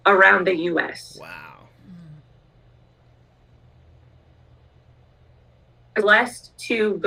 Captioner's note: audio cut out